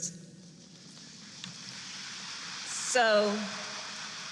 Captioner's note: applause